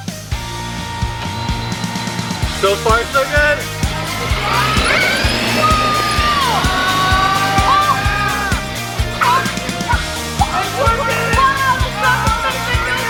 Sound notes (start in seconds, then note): 0.2 upbeat music; 4.4 RC Truck accelerating; 8.0 excitedly yelling